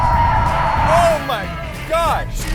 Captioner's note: tires screeching